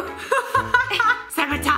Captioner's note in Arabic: يضحك